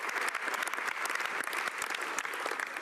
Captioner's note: applause